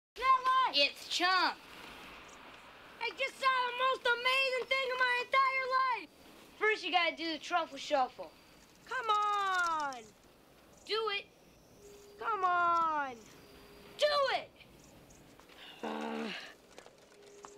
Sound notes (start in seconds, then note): 15.8 growls